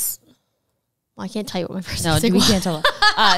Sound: laughs

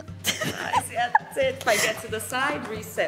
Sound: chuckles

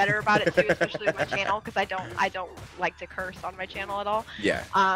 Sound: laugh

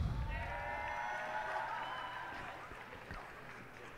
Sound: cheers and applause

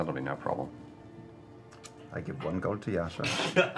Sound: Molly laughs

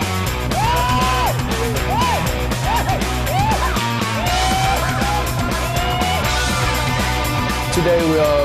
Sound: rhythmic music playing; players hollering

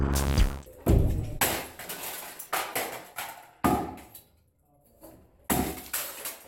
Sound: whacking & clattering

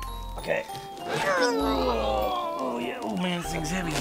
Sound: groaning with effort

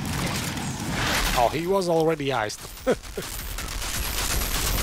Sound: laughs

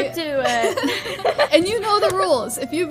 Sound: both giggle

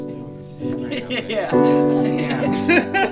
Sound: laughs

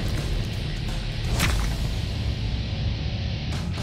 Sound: squishes

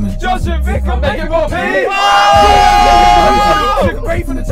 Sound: all screaming

